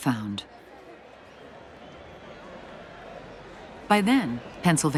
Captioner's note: people calling in background